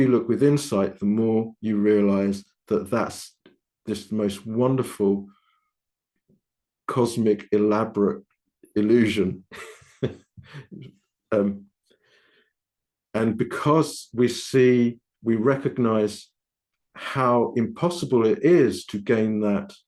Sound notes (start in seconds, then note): 9.5 laughing